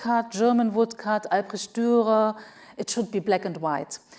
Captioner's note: speaks foreign language